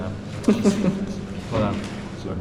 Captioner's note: chuckling